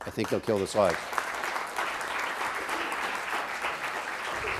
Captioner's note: applause